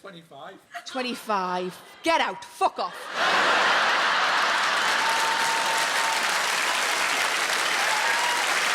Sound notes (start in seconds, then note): 2.9 audience laughing; 3.3 audience applauding